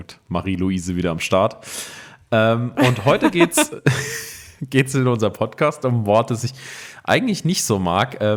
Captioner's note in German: gelächter